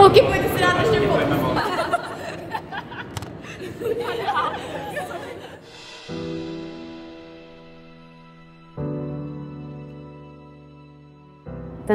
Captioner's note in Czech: Smích